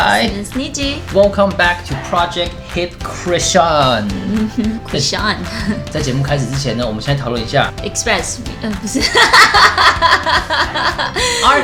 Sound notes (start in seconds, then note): 5.1 French accent